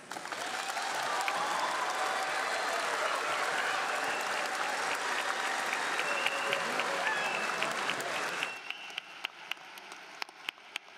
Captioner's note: applause